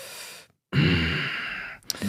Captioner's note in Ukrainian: стогне